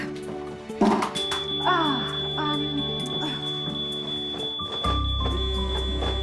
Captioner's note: smoke detector beeping; phone vibrating